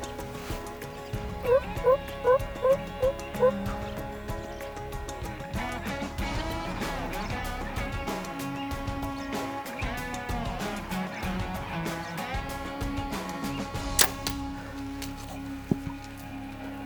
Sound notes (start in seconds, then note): 1.4 turkey calling; 13.9 arrow firing